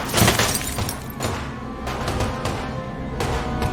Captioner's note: gunfire continues